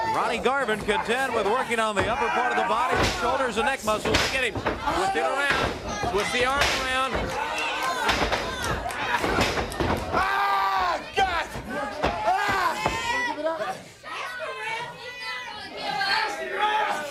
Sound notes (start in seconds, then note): 0.1 crowd cheering; 10.8 crowd cheering; 11.2 crowd chatter; 15.5 crowd cheering